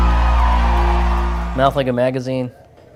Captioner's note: crowd cheering